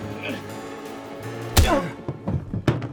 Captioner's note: smash